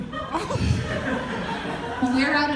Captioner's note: audience laughter